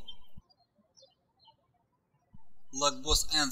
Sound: birds chirping

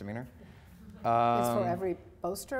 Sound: audience murmurs

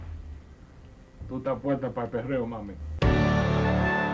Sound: speaking spanish

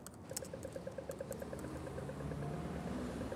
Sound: cross alarm beeps

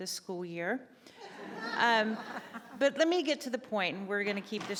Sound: laughter; gavel bangs

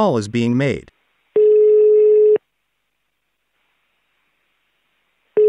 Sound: phone ringing sound

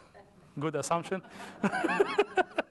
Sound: laughter

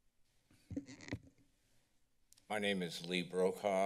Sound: none

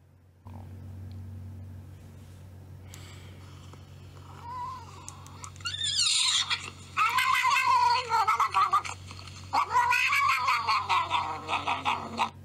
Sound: cat noises

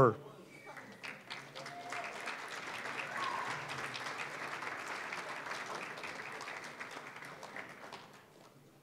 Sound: applause

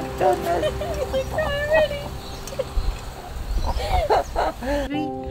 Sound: ladies chuckling

